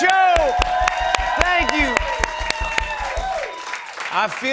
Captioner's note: cheers and applause